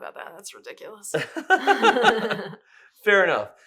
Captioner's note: laughs